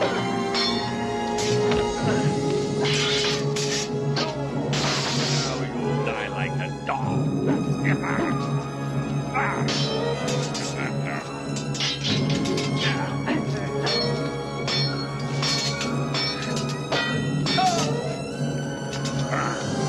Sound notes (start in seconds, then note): 0.2 hitting; 0.6 clinking; 4.4 clinking; 10.8 clinking; 10.8 grunting; 13.8 clinking